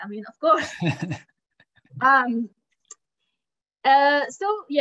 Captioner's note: chuckling